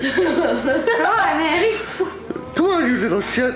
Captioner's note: laughter